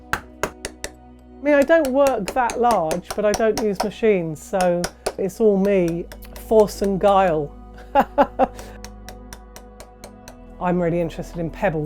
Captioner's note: laughs